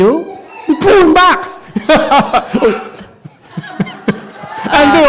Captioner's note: master laughs loudly, then covers mouth with hand